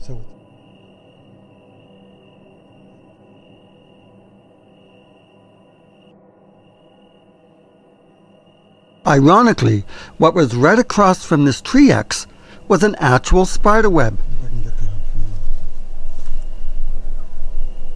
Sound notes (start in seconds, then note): 1.1 crickets chirping; 1.1 eerie music